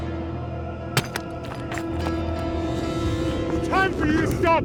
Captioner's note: glasses crunching